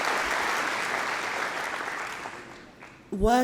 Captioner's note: cheering & Applause